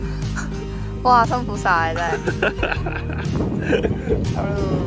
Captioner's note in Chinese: 偷笑